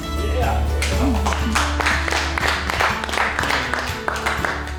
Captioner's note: audience claps